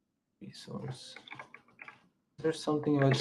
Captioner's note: keyboard clacking